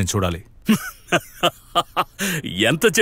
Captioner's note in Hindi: हँसते हुए